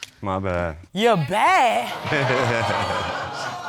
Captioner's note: laughs